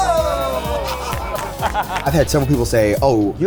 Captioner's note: group laughing and clapping